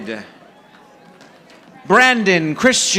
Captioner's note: audience applauding